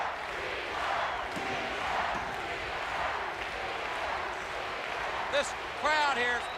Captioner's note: crowd cheering